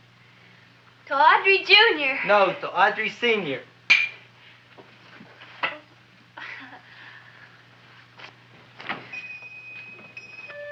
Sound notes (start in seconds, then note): 3.9 glasses clinking; 6.4 chuckles; 9.2 shop bell chiming